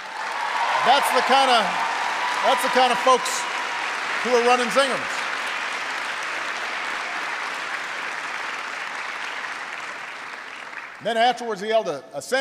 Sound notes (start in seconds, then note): 5.1 applause